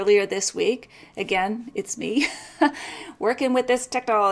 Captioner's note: laughs